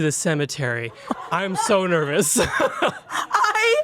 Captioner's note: laughs